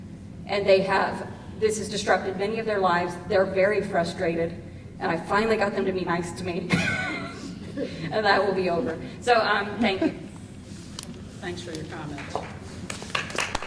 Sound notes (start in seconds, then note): 6.7 crowd chuckles